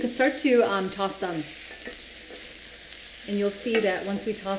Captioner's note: pan sizzling